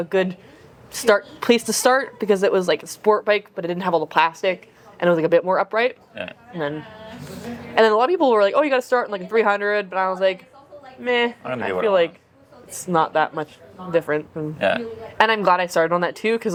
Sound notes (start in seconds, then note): none